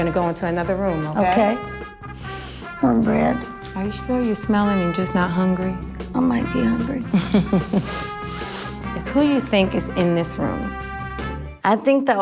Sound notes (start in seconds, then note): 7.0 laughs